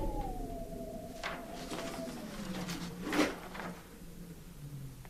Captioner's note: wind whistling